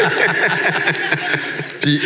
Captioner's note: laughs